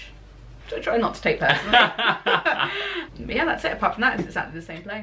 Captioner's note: laughter